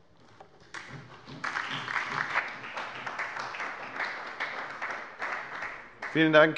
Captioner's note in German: Beifall bei der FDP, der SPD und der LINKEN